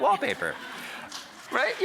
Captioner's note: audience laughing